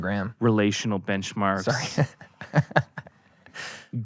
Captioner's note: laughs